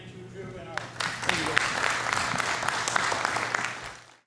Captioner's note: applause